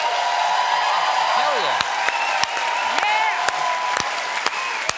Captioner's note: applause